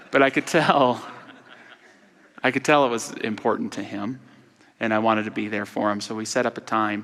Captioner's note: audience laughter